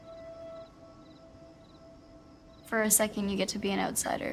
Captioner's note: crickets chirping